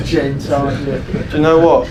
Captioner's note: laughs